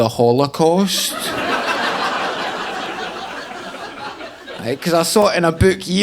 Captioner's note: audience laughing